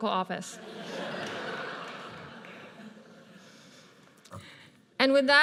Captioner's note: audience laughs